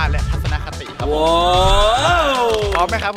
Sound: applauding

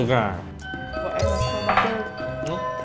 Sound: A bell ringing

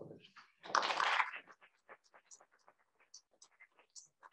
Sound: applause

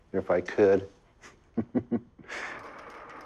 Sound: chuckles

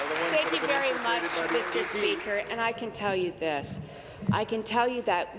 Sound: applause

